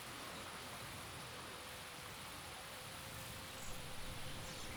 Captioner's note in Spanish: grillos y algun pajaro